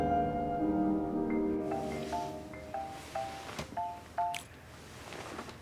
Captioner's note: cell phone alarm ringing